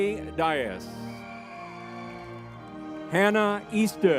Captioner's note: lively music; crowd cheering